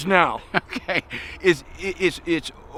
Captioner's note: chuckling